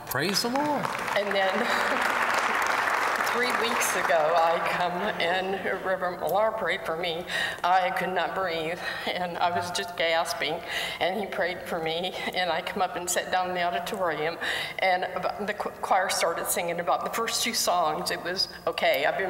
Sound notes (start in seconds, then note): 0.2 applause; 2.8 laughter